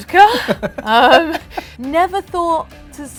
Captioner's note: laughs